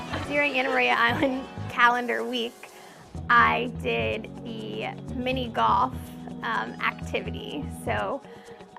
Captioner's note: laughter